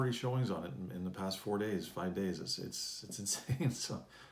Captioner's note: chuckles